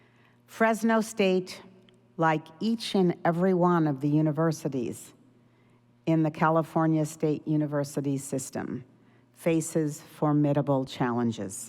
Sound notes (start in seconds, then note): none